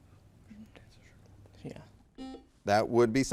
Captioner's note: whispering; buzzer beeps